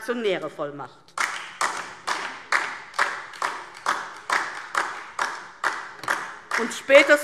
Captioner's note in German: Beifall DIE LINKE